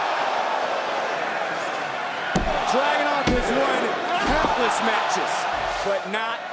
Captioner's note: applause